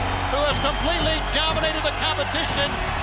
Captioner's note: crowd cheering